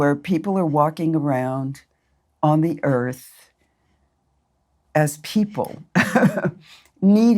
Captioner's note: laughs